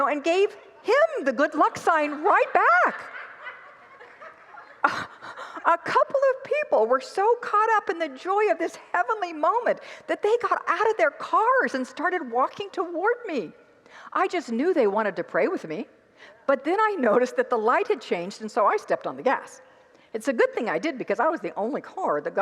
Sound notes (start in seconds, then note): 0.0 congregants laugh